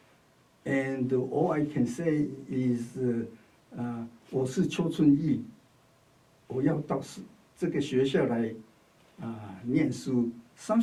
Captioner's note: speaks Chinese